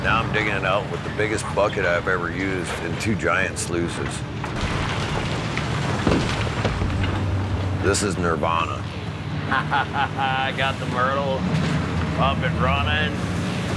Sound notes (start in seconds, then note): 9.4 chuckles